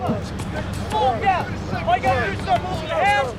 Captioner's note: slow music; crews chatter